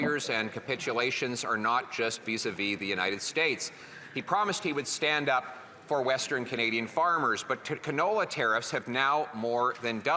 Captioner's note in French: voix de l'interprète